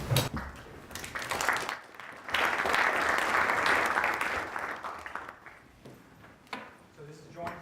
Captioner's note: applause